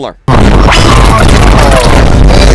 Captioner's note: goofy ah sound effects